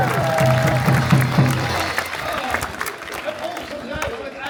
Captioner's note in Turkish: alkış